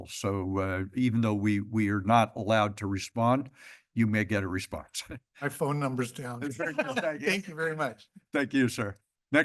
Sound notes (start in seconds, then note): 6.5 laughter